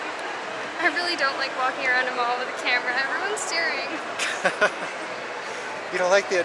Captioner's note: laughter